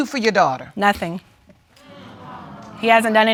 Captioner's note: audience groaning